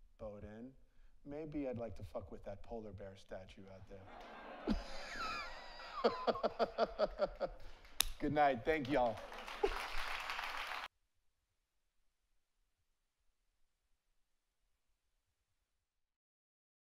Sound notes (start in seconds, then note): 4.0 audience laughs; 4.1 laughs; 10.5 audience applauds